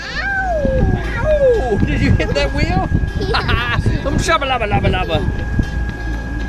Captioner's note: laughter